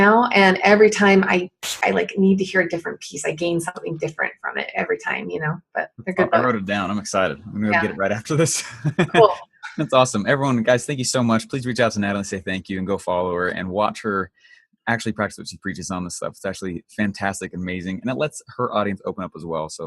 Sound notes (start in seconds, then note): 9.3 laughs